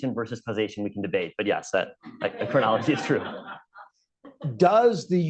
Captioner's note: laughter